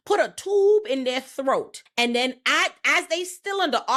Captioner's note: none